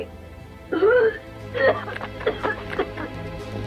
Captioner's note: retching and puking